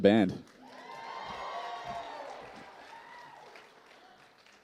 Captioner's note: applause